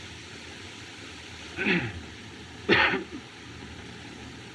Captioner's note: clears Throat, Coughs